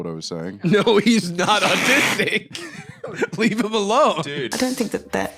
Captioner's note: laughing